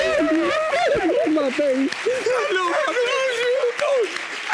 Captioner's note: crying